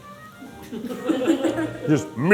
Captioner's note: crew laughing